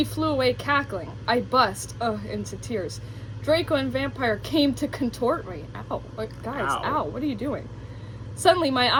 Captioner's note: moans